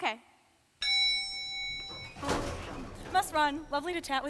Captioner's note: ding